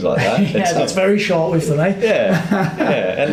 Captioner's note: chuckles